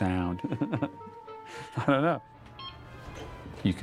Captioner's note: chuckles